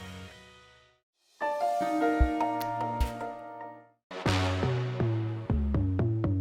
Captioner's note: soft gentle sound effect; upbeat intense music